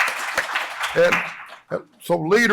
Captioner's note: applause